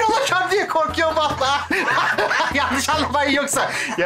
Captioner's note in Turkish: Gülme sesi